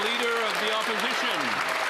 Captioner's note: cheering and Applause